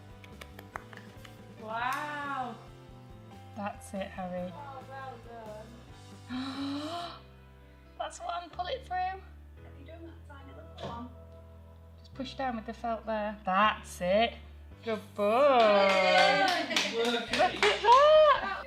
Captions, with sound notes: *claps* wow! That's it Harry! Well done! Last one! Pull it through! Push down with the felt there! That's it! Good boy! *Cheering* Look at that!